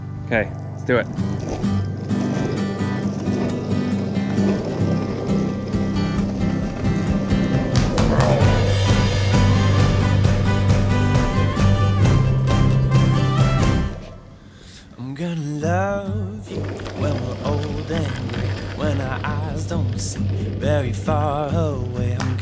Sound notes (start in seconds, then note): 1.9 upbeat music; 3.9 skateboard wheels rolling